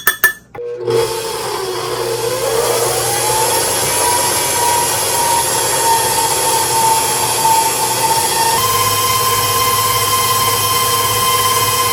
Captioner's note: electric mixer working again